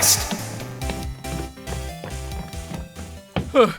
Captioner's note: rapid footsteps!; heavy breathing